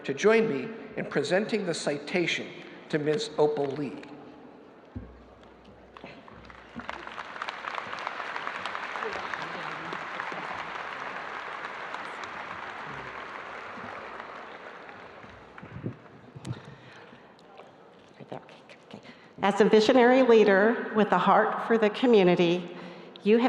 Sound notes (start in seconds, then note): 6.9 audience applauding